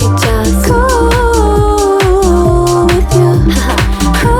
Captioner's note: Haha